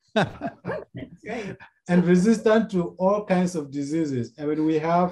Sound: laughs

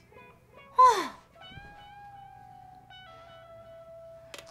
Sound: Chun Ji sighs

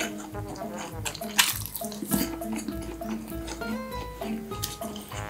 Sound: laughs

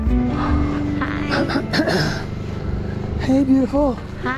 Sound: clearing throat

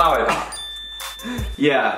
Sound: bell dings

